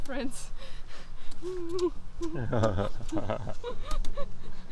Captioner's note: laughter